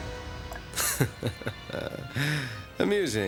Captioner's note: chuckling